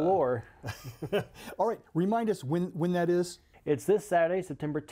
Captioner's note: laughs